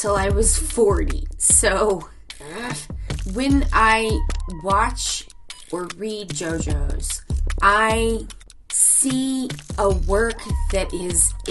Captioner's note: groans